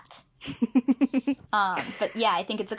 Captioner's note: laughs